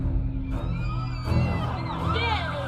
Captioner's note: children screaming